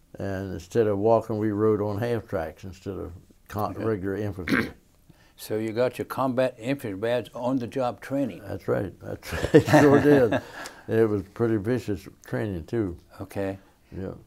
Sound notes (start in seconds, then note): 9.2 laughing